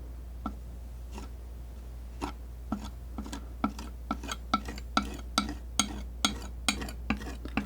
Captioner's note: tapping